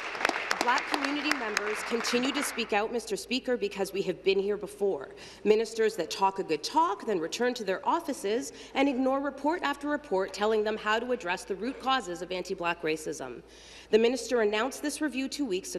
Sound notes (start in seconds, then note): 3.1 applause